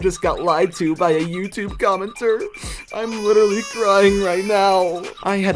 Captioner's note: baby crying